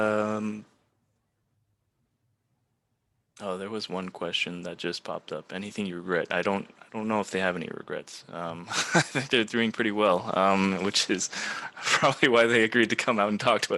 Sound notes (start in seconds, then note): 8.6 laughs